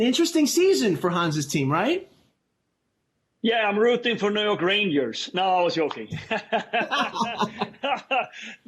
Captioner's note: laughter